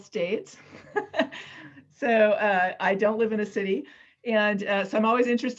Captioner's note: laughs